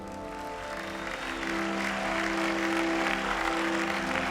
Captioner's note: applause